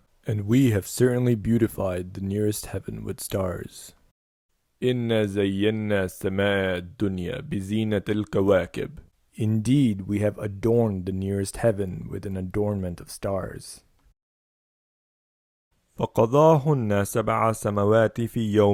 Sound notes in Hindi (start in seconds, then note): 6.5 उर्दू